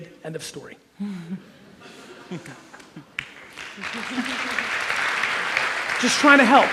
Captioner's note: audience chuckles and applauds